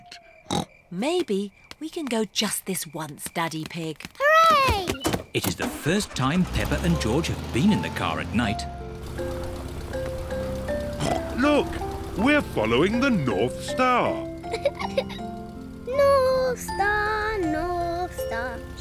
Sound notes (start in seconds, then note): 0.5 oinks; 11.0 snorts; 14.4 giggles